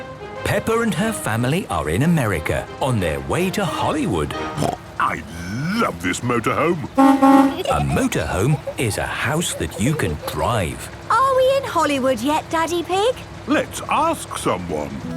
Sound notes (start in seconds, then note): 6.8 honking